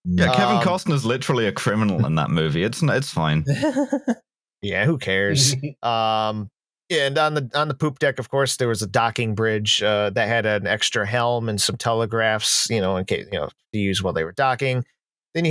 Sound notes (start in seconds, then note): 3.9 laughs briefly; 6.3 chuckles